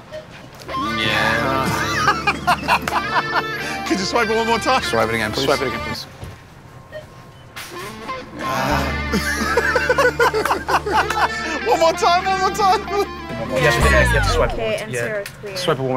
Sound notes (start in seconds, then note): 1.6 laughter; 8.3 moans; 8.9 laughter